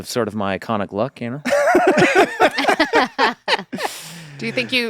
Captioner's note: laughter